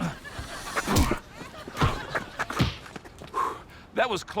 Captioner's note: cartoonish punch sound effects